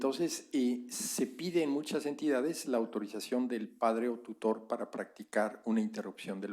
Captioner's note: spanish